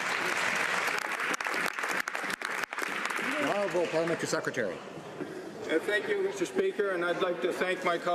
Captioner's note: some Applause